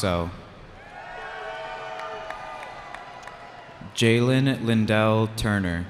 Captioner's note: cheering